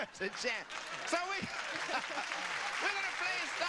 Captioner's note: audience applause; laughs